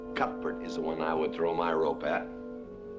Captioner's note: none